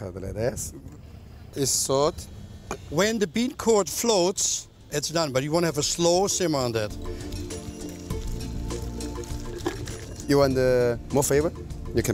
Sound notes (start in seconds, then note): 8.0 pouring soup